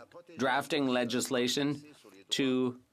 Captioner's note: speaking French